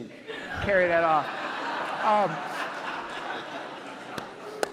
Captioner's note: audience laughs